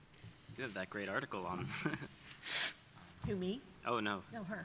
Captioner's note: chuckling